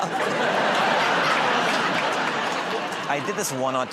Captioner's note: laughter